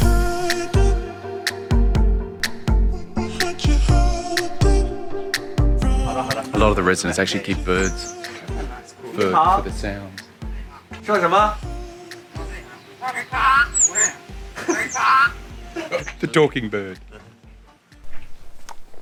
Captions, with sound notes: A lot of the residents actually keep birds for the sounds. (speaking in foreign language) (bird repeats foreign phrases) The talking bird.